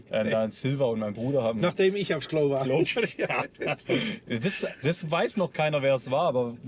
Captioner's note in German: gelächter